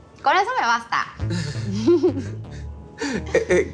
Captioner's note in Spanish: Risas